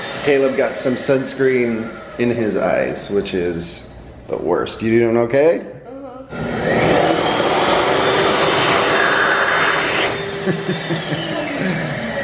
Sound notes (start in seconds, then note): 6.3 hand dryer loudly blowing; 10.3 chuckles